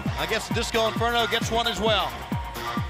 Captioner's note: crowd cheering